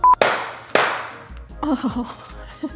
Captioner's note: beeping; clapping; laughing